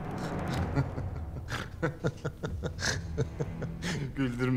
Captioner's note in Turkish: Vasilius gülme sesi